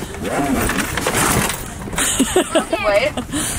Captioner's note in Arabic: يضحك